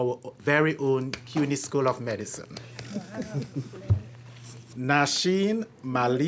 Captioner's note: chuckles